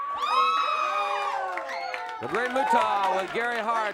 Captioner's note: crowd cheers